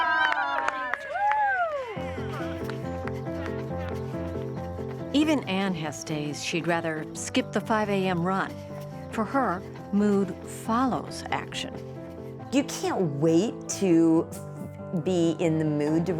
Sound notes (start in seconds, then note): 3.0 crowd cheering and applauding; 4.6 piano music